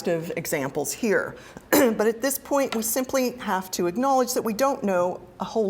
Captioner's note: cough